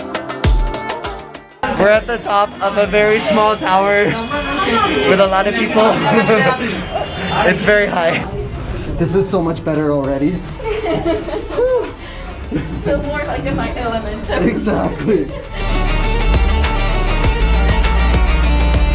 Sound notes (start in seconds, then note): 10.5 laughing; 14.8 indian music playing